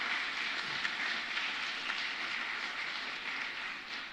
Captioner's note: applause